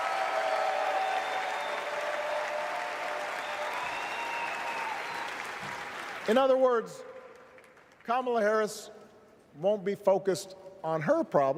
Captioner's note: cheers